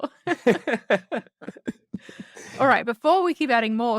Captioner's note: laughs